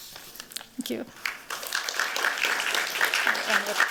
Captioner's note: applause